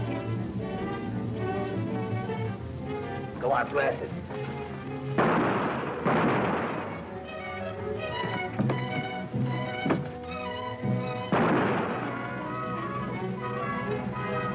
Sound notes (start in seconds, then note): 5.1 gun fires; 7.5 dramatic music; 11.2 gun fires